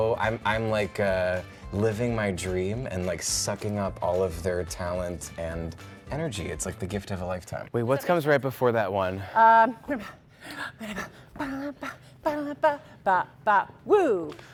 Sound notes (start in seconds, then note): 9.9 labored breathing; 11.4 vocalizing